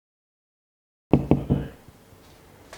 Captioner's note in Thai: เสียงเคาะประตู